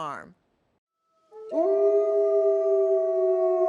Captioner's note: howling